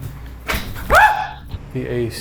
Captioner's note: item clicking; screaming